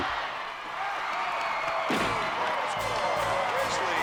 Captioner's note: crowd cheering